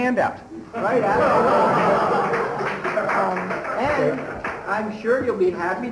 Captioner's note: laughter